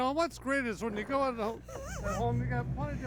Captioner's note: laughs